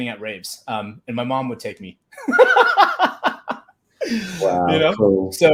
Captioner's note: laughs